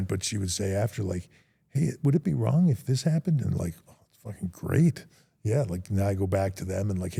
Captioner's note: none